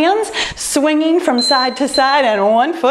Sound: timer beeps

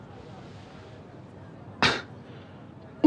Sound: scoffs

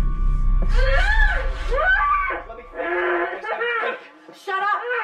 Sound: screaming

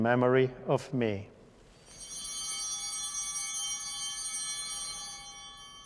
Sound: chimes ringing

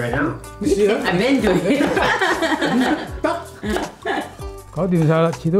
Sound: laugh

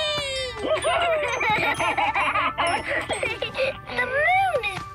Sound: laughing

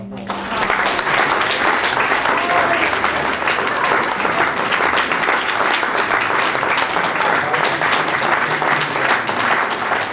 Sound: applause

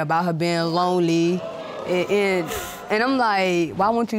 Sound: audience exclaiming

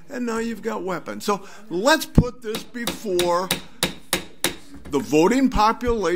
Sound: gavel bangs

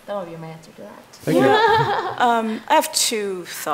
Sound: laughing

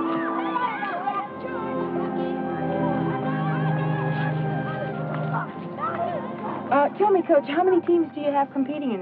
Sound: kids playing

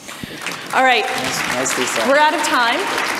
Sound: audience applause

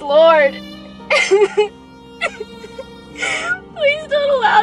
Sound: sobbing

